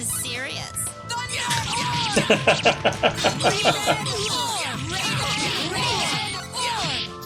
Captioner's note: laughs